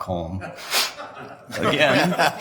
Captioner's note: members laugh